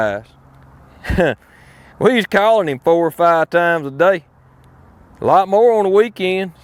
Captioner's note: chuckles